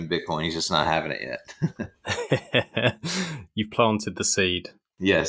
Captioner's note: laughing